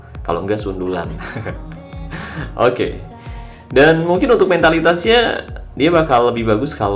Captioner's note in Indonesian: tertawa